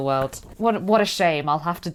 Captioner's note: sarcastically